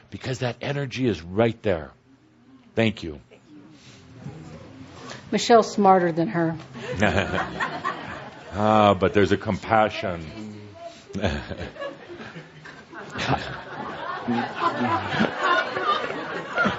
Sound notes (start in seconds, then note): 6.8 laughter